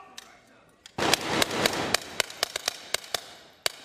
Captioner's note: gunshots